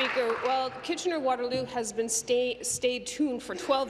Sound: applause

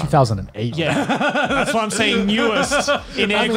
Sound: laughs

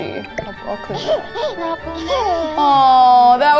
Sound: baby chuckling

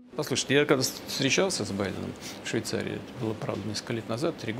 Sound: ethereal music; Putin speaking in Russian

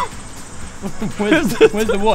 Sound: 0 : Giggles 4

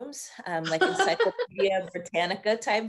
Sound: laughing

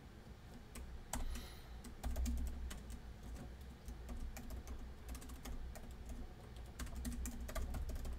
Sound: typing

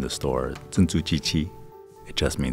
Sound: speaking in foreign language

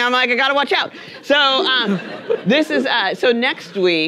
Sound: audience laughing

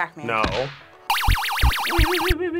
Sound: laser humming

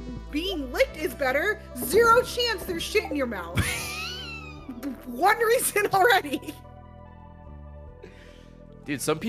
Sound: laughs

